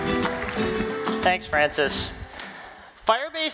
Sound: applause

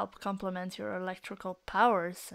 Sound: none

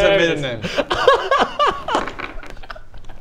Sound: giggles

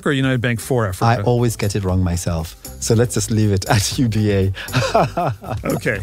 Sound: laugh

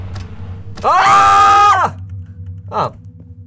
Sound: both scream

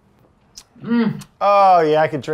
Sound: Elizabeth hums

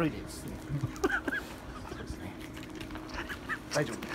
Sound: laughter

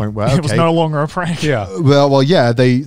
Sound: laughs

